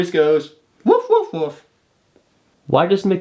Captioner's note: imitating dog barking